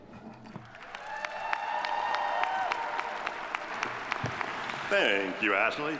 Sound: audience applauding

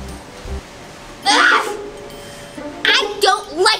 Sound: grunts

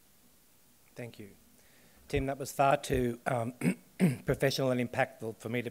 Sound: coughs

